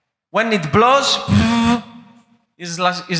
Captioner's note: humming